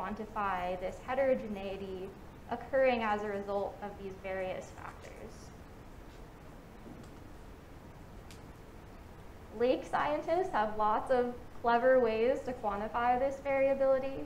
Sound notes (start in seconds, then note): none